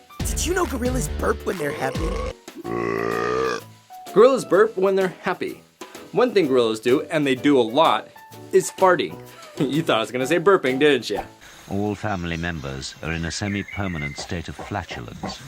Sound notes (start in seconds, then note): 2.5 gorilla burp